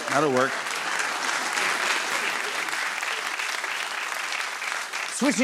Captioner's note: applause